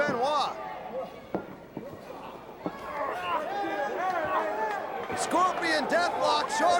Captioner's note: crowd chatter